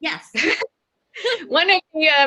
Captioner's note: laughs